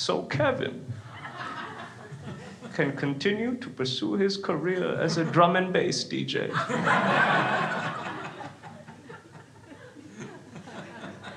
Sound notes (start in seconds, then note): 6.4 crowd laughs